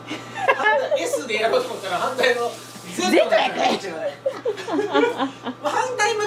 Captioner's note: laughs